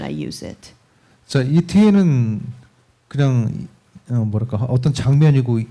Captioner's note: speaking korean